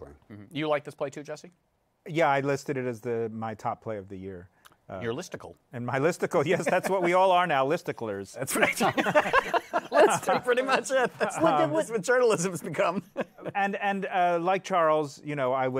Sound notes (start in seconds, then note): 8.5 laughter